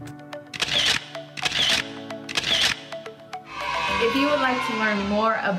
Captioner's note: camera clicking; children cheering